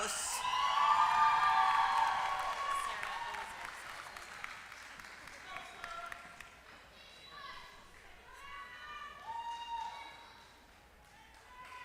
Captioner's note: applause